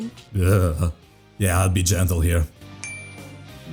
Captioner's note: shudders